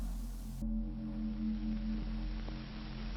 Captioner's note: hiss, pops, and clicks